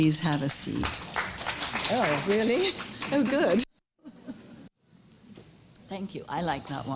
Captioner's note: applause